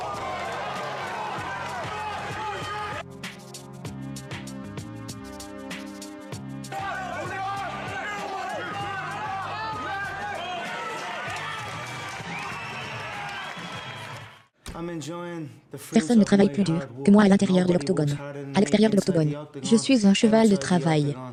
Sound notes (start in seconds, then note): 0.0 crowd yelling and applauding; 4.2 dramatic music; 6.7 crowd cheering and applauding; 12.2 whistling